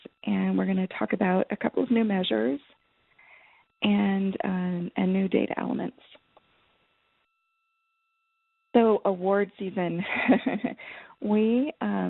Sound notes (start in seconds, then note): 10.1 laughs